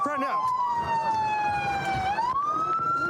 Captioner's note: sirens blaring